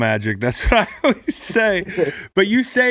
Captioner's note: laughs